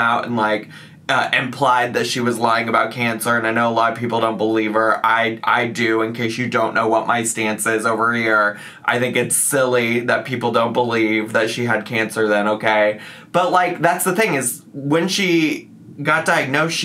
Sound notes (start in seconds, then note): none